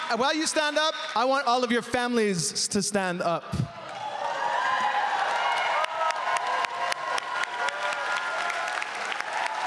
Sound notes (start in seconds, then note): 2.7 speaking French